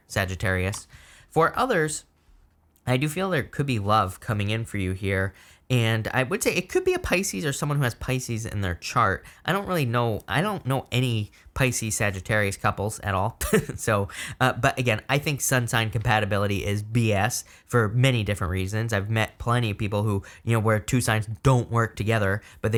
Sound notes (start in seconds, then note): 13.7 chuckling